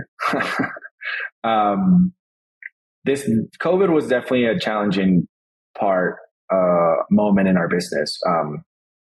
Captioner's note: laughs